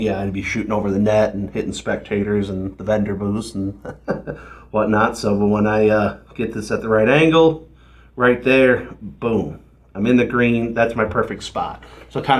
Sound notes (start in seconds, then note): 3.5 laughs